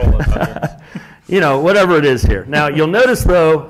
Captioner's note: laugh